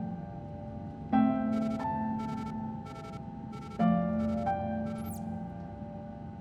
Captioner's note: device beeping